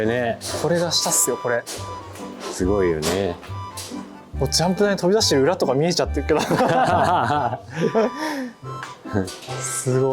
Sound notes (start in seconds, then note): 6.4 laughing